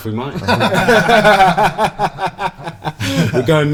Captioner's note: group Laughter